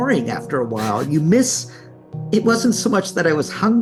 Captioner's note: chuckles